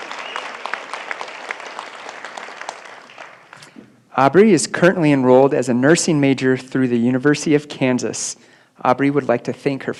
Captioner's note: applause